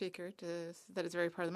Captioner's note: speaking French